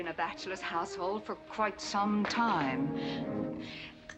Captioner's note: gritting teeth